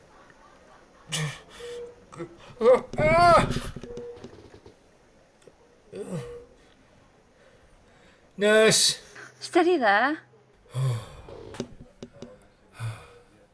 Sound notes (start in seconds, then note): 2.6 screaming and groaning